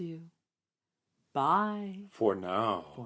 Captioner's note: sing-songy